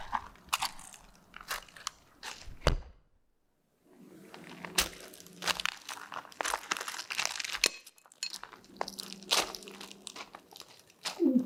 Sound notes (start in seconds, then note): 6.5 footsteps crunching on rocks